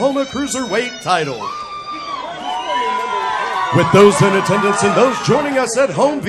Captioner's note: applause